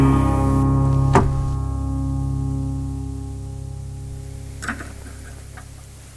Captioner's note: door latch clacking; objects rustling